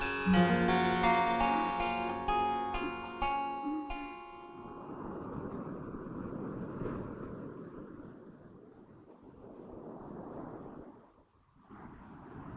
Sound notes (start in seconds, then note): 4.8 wind blowing